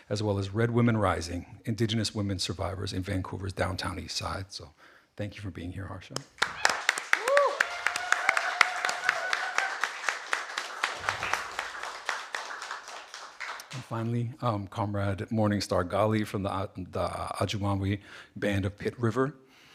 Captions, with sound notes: as well as "Red Women Rising: Indigenous Women Survivors in Vancouver's Downtown EastSide." So thank you for being here, Harsha. (audience applauding) (audience cheering) And finally, comrade Morning Star Gali, from the Ajumawi Band of Pit River